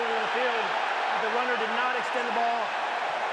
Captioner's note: cheering